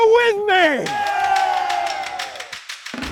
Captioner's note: crowd; upbeat music